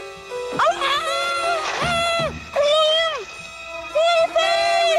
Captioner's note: muffled screaming